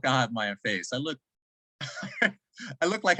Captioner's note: chuckles